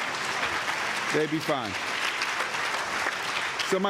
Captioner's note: applause